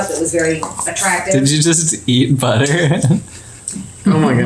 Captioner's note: laughing